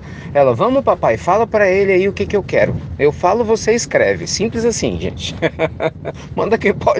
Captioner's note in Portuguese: risadas